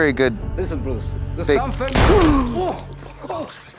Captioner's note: gun fires